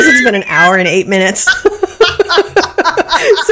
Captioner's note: laughing